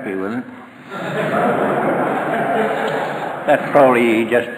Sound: audience laughter

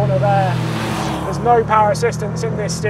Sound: engine roars

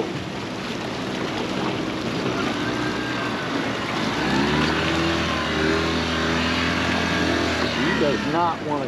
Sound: boat engine running

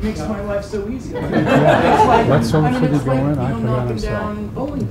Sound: audience laughs

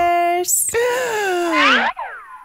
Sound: Unicorse gasps in awe

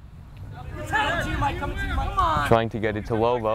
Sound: players talking and yelling

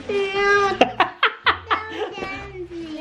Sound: laughing

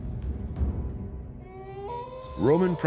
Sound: wolf howls

